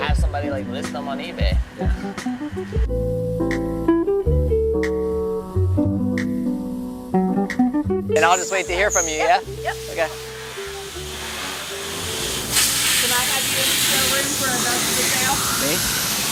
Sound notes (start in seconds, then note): 2.8 jazz music playing; 11.4 machine noises